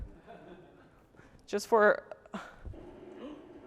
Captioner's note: laughter